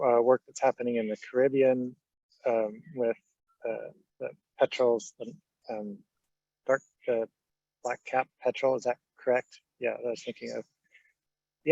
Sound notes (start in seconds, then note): 5.2 stammering